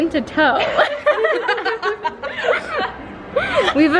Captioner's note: laughing from all around